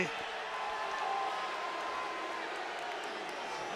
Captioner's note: audience jeers